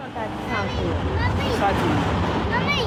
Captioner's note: murmuring to child; child shouting